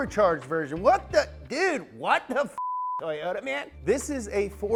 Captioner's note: beep